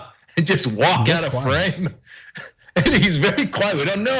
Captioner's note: laugh; laugh